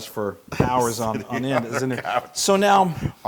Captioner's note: laugh